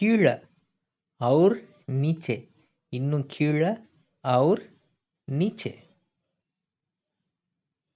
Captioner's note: Hindi